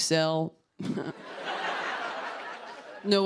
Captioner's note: laughter